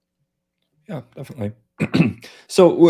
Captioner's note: clearing throat